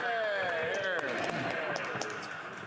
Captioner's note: applause